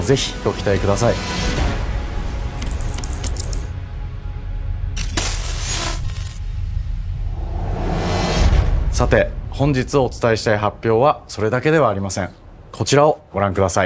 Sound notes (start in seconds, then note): 1.6 music fades; 4.9 static